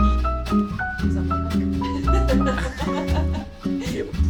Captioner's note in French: rires